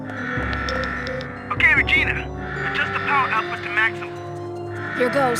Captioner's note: radio beeping